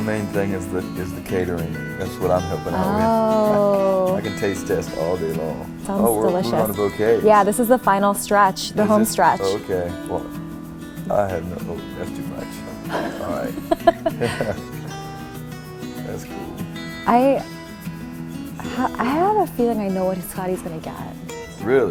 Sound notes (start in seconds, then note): 12.8 laughter